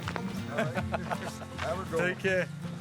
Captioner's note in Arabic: كلاهما يضحك